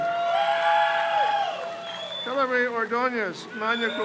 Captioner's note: crowd cheers